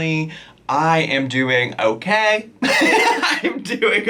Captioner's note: laughing